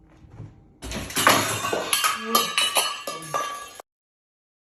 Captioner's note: clanging of several small metal items falling to the floor